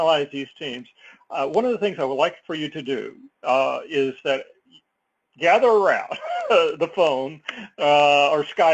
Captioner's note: laugh